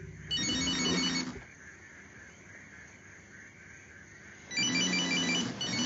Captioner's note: cellphone rings and vibrates